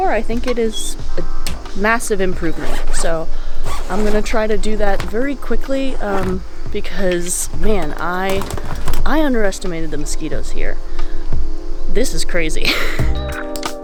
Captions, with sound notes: I think it is a massive improvement. So I'm going to try to do that very quickly. Because, man, I – I underestimated the mosquitoes here. This is crazy. [Laughs]